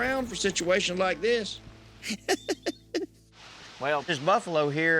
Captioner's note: laughs